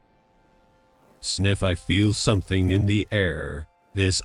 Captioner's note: sniff